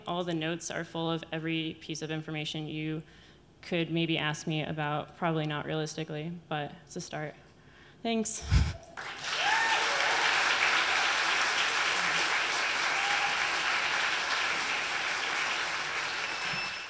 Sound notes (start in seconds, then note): 8.9 audience clapping